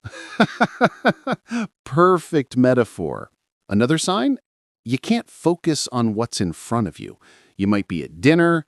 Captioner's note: laughs